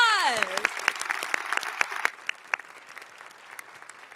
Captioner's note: all applauding